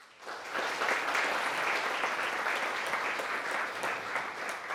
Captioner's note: audience applauding